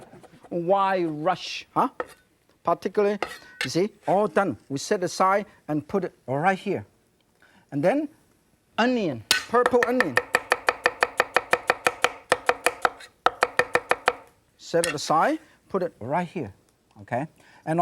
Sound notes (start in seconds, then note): 9.9 knife chopping on board